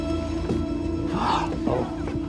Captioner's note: gasping